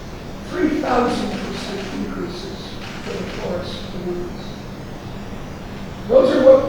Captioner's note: speaking softly